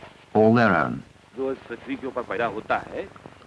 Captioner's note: non-English speech